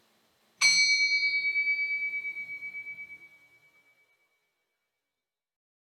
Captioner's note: bell chiming